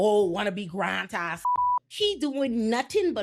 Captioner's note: beep